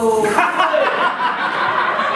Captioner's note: animals laugh